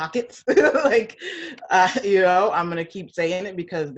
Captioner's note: laughs